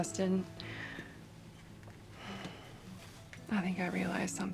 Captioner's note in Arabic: زفير